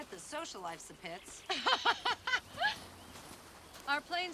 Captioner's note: ladies laughing